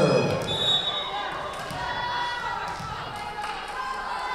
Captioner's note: whistle blowing